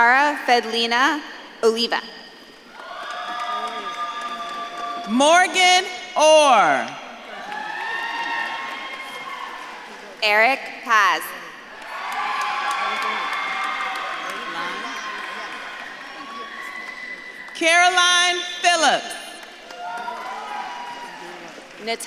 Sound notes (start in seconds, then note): 3.1 audience claps and cheers; 7.6 audience claps and cheers; 12.1 audience claps and cheers; 19.5 audience claps and cheers